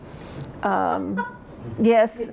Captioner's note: laughter